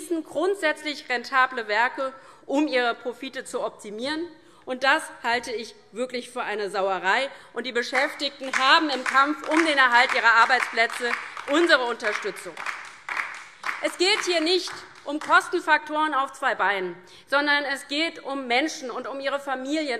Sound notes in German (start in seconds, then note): 12.8 Beifall DIE LINKE